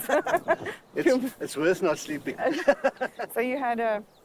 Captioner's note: laughing